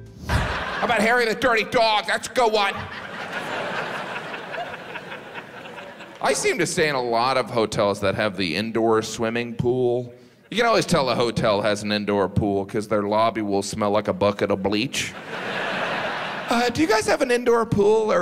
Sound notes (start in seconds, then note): 0.0 pleasant music; 2.4 audience laughs; 15.1 audience laughs